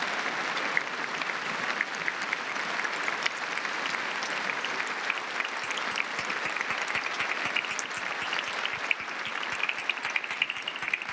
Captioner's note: applause